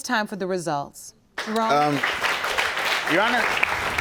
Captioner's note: audience applauding